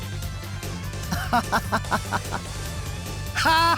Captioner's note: chuckle; laugh; nefarious laugh